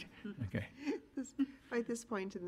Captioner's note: giggling